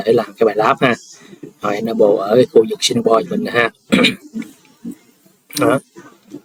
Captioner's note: clears throat